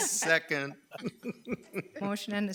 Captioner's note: members chuckling